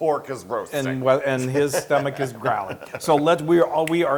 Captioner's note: laugh